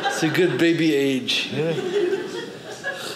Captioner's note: audience laughing